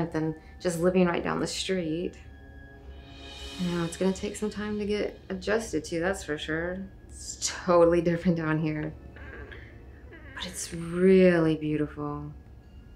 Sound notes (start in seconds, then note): 9.1 door creaking